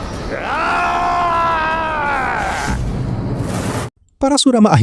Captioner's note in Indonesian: berteriak